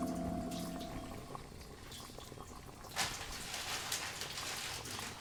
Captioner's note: object crackling